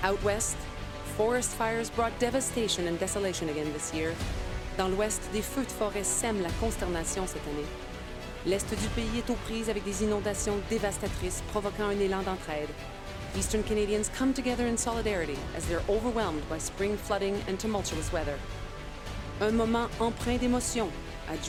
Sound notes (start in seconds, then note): 0.3 speaking French; 10.6 speaking French